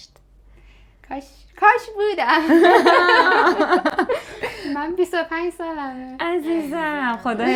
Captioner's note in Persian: خنده